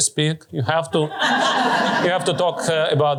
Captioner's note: laughter